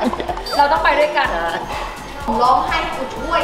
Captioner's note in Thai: หัวเราะ